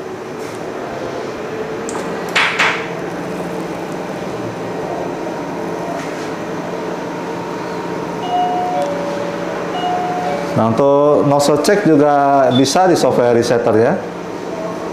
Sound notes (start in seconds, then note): 0.3 pressing button sound; 1.9 moving tray sound; 7.5 doorbell sound